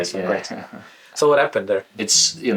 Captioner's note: laughs